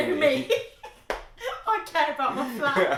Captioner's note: laughing